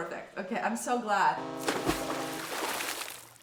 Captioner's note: horns blaring; water splashing